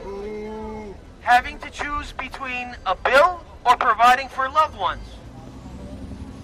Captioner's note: booing